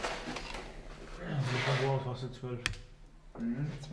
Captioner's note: soft conversation